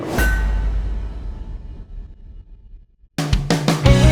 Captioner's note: heavy metal clank; light electronic music